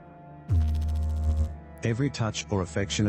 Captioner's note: electrical noise